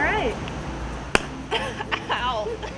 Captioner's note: clap; laughing